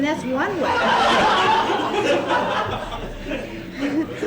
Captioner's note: laughter